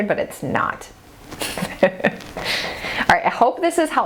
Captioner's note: laughs